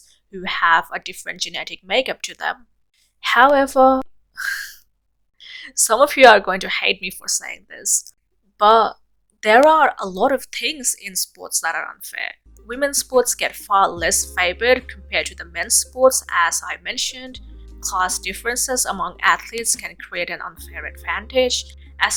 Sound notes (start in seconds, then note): 4.4 sigh